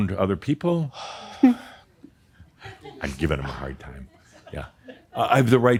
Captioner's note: sighs